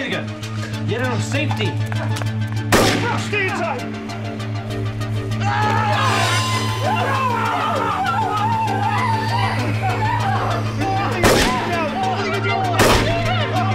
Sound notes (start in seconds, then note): 5.4 screams; 11.2 blam! Blam!